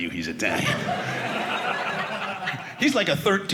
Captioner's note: audience laughing